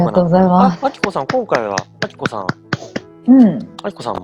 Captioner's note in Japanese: 拍手